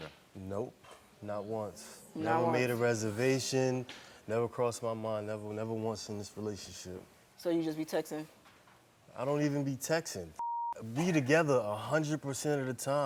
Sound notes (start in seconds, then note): 10.4 beep